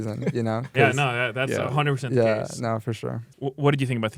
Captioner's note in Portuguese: risos